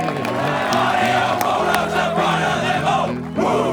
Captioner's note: team chants